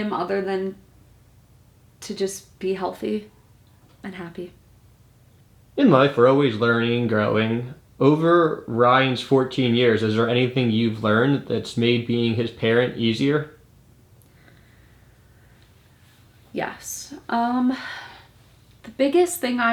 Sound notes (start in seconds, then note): 17.7 sighs